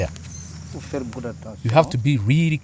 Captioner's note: non-english speech